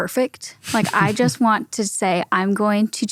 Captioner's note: chuckles